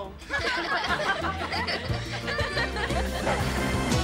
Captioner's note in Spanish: todos ríen